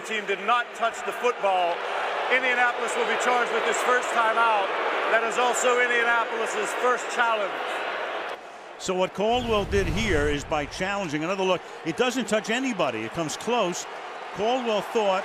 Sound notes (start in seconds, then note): 2.2 booing